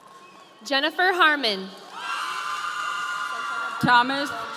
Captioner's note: audience cheering